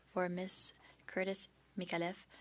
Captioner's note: speaking French